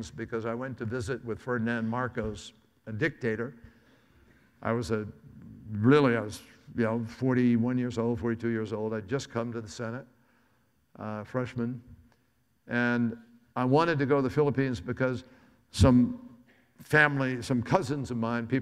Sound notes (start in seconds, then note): none